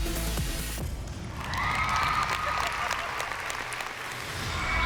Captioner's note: cheering; giggling